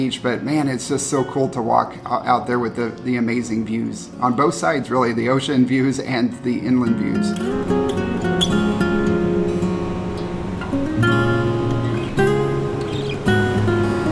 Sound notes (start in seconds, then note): 7.4 waves crashing; 8.1 gentle guitar music